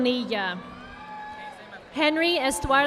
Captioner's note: audience applauding